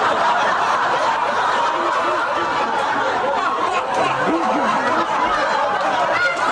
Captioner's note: laughter